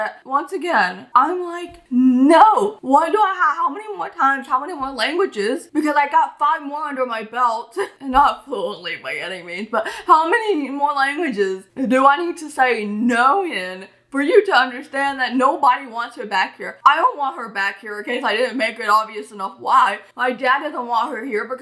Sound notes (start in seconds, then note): 7.6 laughs